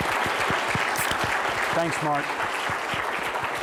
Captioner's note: applause